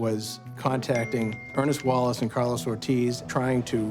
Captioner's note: cell phone ping